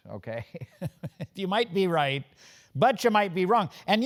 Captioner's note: laugh